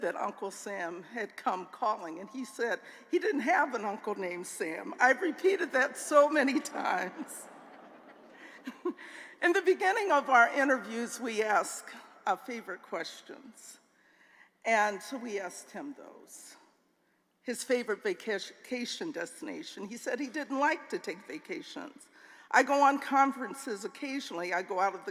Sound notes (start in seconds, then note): 6.5 laughter